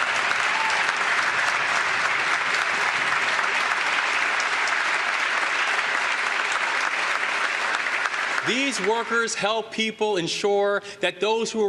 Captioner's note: applause